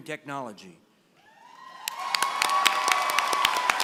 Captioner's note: applause